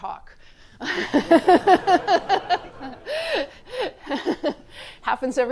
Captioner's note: laughter